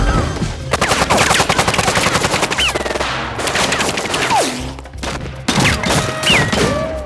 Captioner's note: dramatic music; guns firing